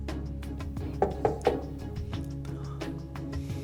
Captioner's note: knocks